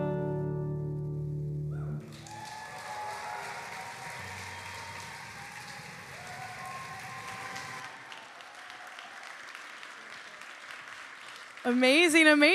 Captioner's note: applause